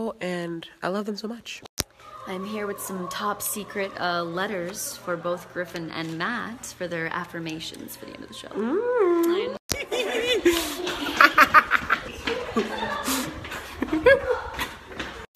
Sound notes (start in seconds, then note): 9.7 excited giggling